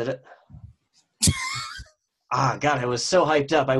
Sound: laughs

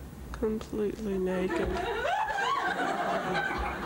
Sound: laughter

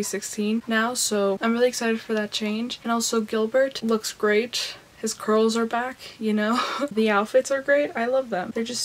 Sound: laughs

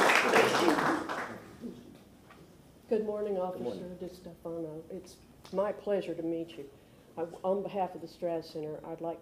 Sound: applause

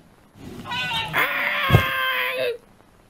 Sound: trumpeting; shrieks

